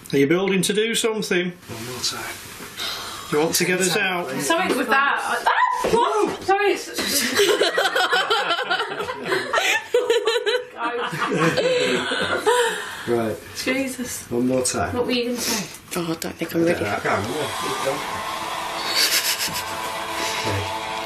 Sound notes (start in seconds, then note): 5.5 screams; 7.1 laughing; 18.1 chanting music